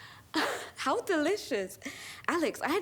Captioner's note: laughs